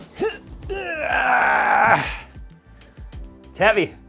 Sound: grunting

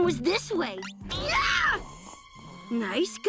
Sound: screaming

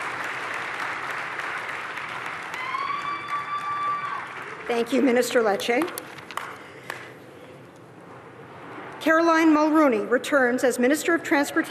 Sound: applause

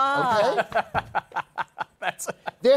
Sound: laughs

